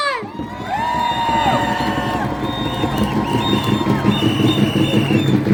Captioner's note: cheers and applause